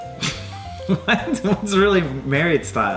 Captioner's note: laughs